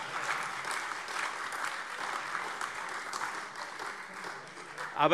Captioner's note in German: Beifall Freie Demokraten und AfD